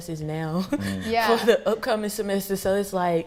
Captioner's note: laughing